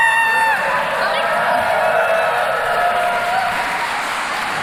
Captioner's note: crowd cheering